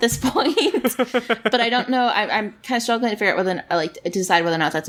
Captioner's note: laughs